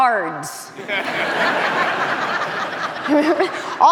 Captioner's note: audience laughing